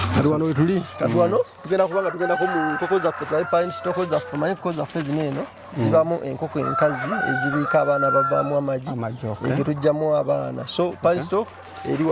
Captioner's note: hens